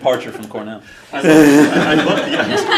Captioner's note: laughter